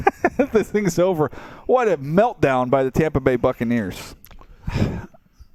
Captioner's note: laughs